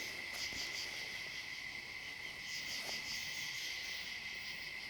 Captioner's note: insects chirping